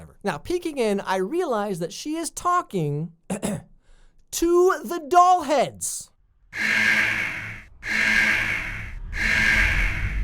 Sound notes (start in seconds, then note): 3.3 clears throat; 6.5 alarm sounding